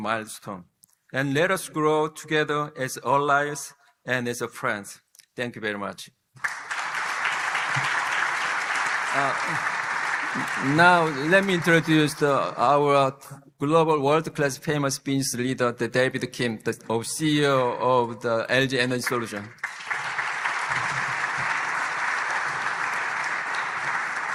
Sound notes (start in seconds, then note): 10.0 applause